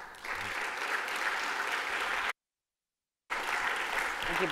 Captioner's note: applause